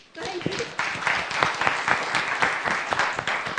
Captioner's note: applause